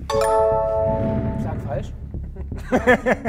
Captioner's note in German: Lachen